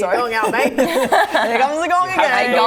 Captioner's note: laughing